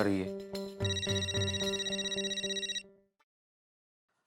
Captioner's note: mobile ringing